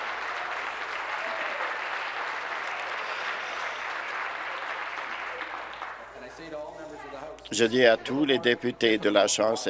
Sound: applause

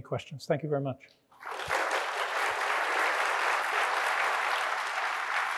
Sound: audience applauding

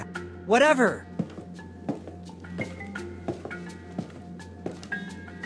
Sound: footsteps

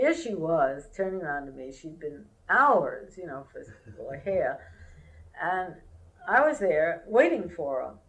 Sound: laughter

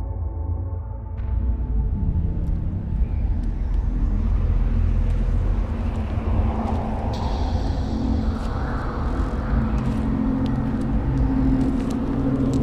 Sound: sound of biting wind

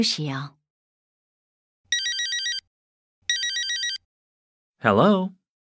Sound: cell phone rings

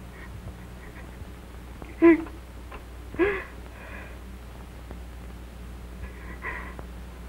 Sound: Lucas is crying

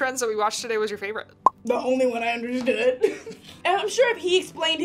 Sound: laughs

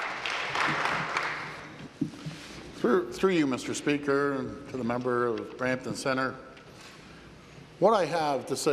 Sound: applause

